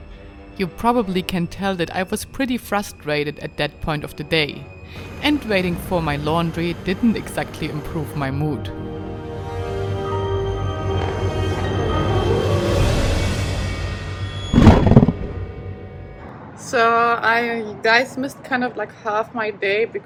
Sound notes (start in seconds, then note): 9.2 suspenseful music; 14.6 lion roars